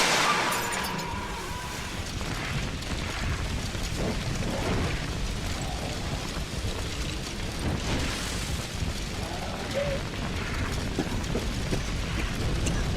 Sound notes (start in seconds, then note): 1.2 fires erupt in background